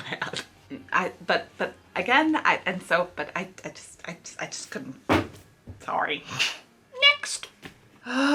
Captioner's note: drops book